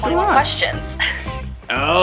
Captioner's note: laughs